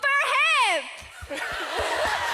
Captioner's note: clapping, cheering